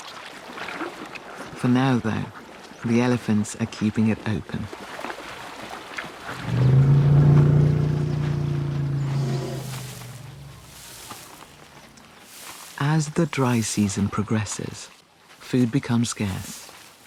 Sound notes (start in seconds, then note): 6.3 elephant chuffs